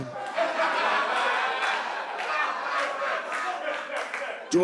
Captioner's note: laughter